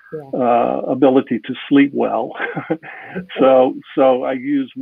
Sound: chuckling

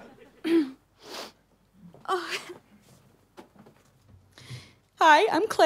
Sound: clears throat

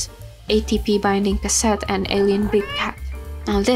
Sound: purr meow

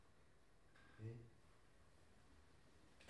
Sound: mockingly

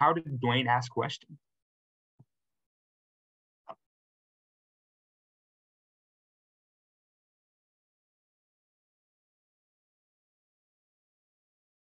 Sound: silence

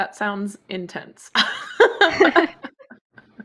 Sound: laughter

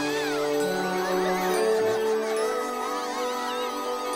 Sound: frightened screaming and yelling

